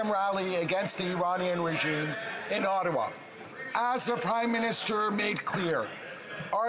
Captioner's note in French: voix de l'interprète